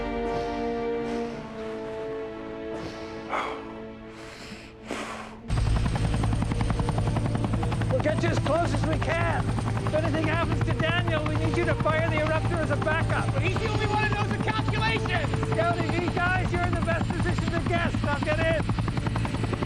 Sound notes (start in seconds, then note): 0.1 breathing heavily; 5.4 chopper blades whirring